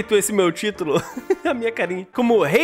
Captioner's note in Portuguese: Risos